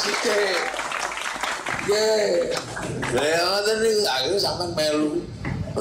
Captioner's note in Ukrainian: Оплески